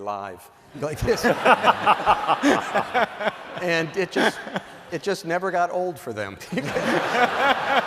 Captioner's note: laughter